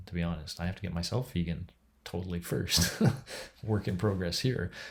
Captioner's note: chuckles